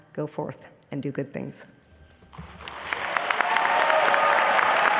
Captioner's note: applause